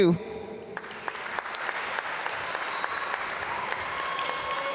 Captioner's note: applause